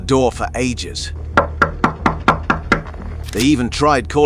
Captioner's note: knocking door